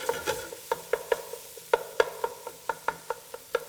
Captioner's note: sound of wooden spoon hitting metal pot